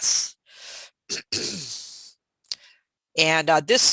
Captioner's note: clears throat